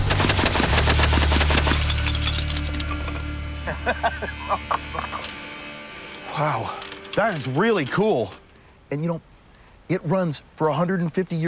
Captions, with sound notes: (gun banging) (laughs) That's awesome. Wow, that is really cool, and for 150 years old?